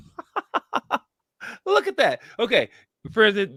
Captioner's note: laughs